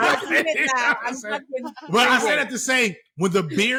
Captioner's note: laughter